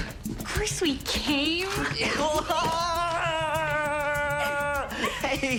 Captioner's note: excited shouting